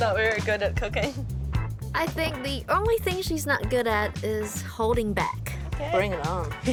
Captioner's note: laughs